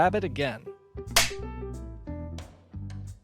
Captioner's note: film clapper sound, music continues